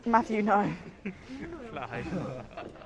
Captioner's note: laughs